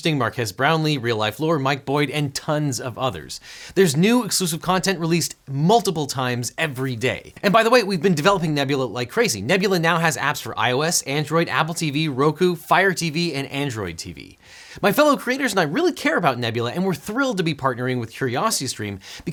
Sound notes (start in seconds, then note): none